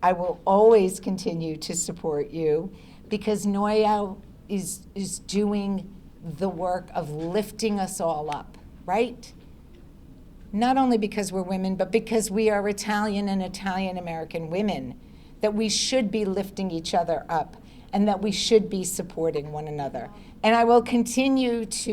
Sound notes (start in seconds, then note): none